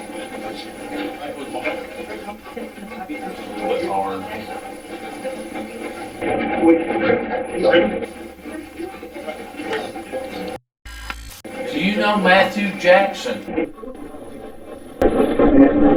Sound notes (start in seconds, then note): 0.1 static playback transmitting; 11.0 static fizzing; 13.7 static playback transmitting